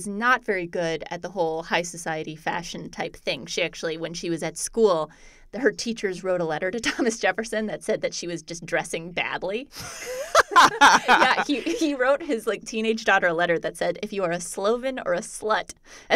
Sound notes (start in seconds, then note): 9.7 laughter